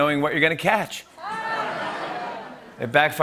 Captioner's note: laughter